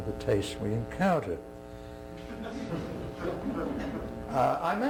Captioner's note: laughter